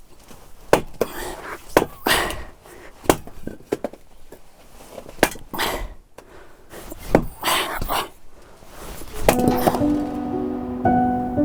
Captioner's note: grunting